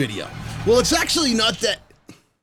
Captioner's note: machine stopping